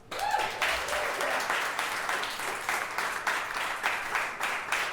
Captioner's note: audience cheering and clapping